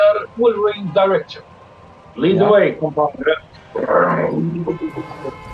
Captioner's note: turning on the ignition